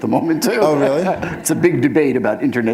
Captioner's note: laughter